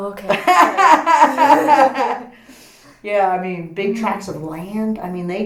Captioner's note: laughs